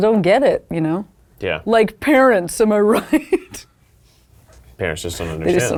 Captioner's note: laughs